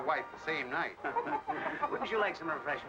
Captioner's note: laughing